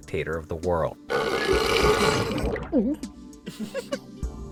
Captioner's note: burps